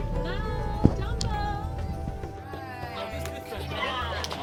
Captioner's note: general chattering